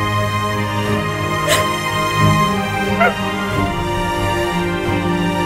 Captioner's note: Cries